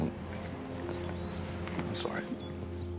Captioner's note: birds chirping